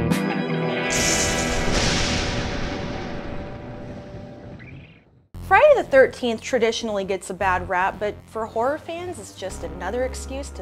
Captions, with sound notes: (lightning crackling) - Friday the 13th traditionally gets a bad rap, but for horror fans, it's just another excuse